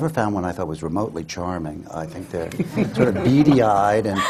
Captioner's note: laughter